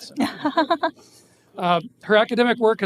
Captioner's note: laughing